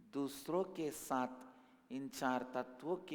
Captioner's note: hindi